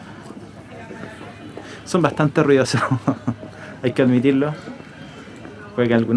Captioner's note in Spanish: risas